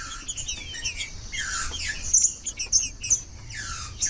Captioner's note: trinca ferro cantando